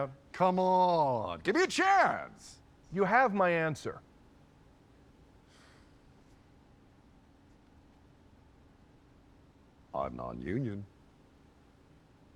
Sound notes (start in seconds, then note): 5.2 sighs defeat